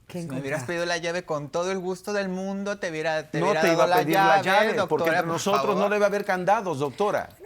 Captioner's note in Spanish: Hablan al unísono